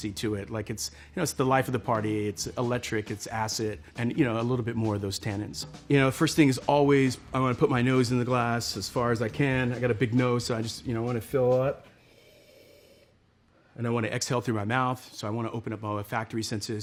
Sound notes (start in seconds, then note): 12.0 sniffs